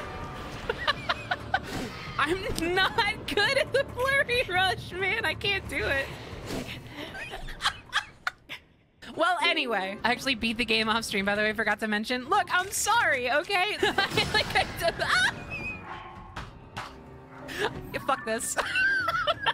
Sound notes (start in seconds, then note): 0.5 laughter; 6.9 laughter; 13.8 laughter; 15.2 wheezing; 16.7 smack; 18.5 laughter